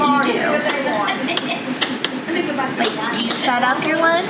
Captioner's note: pen tapping